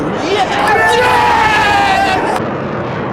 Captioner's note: cheering